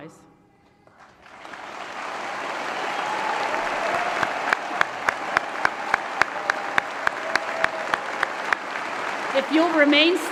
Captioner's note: applause & Cheering